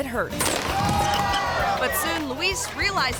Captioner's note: skateboard thuds